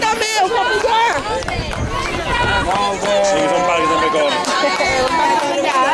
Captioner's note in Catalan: La gent anima